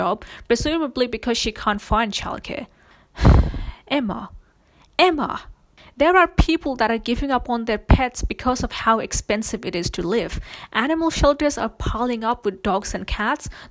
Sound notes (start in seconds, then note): 3.2 sighs